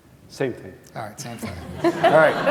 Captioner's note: laughter